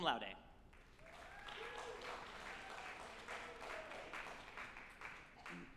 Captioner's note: group applauding and cheering